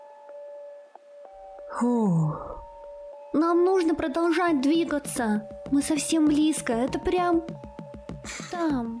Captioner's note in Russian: вздох